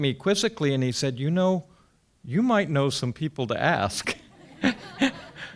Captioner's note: laughs